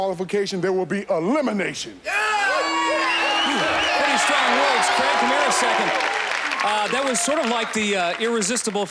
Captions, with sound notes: there will be elimination! [audience cheering] Pretty strong words. Craig, come here a second. That was sort of like the, irresistible force